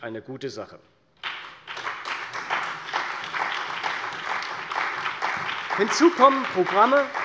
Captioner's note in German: Beifall bei der CDU und dem BÜNDNIS 90/DIE GRÜNEN